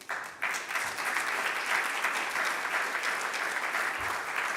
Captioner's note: audience applauding